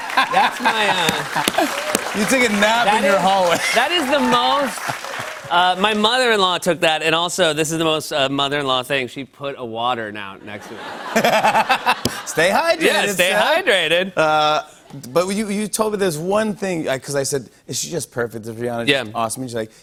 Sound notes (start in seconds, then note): 10.4 laughter